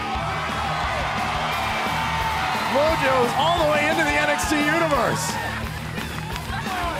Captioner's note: cheers and applause